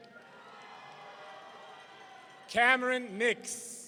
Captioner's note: audience cheering